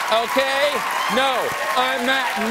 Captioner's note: cheers and applause